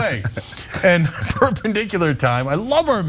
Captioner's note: laugh